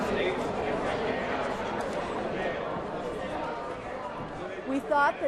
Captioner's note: crowd noise